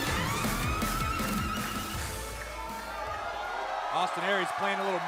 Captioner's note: crowd cheering